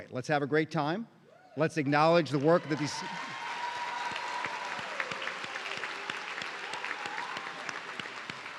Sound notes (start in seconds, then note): 2.2 audience cheering